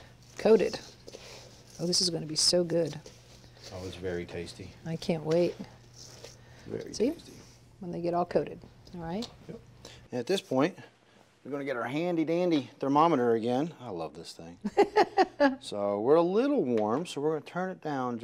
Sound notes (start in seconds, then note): 15.1 laughs